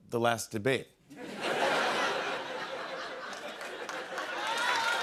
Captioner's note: laughter; cheers and applause